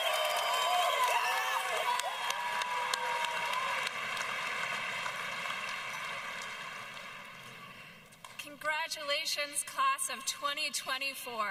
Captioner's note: cheers and applause